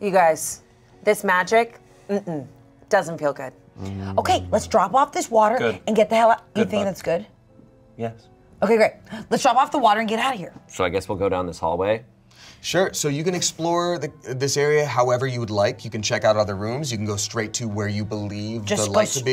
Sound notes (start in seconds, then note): none